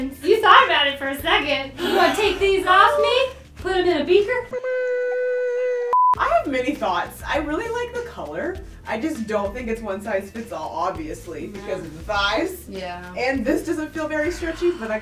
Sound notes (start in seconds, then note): 4.6 yelping sound; 5.9 beep sound